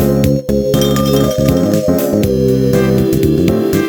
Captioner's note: ting ting